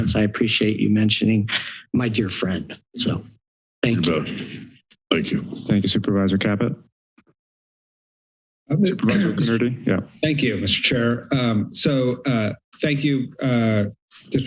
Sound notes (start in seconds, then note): 7.2 silence